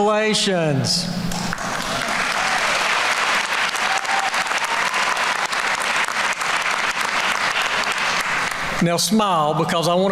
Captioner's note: applause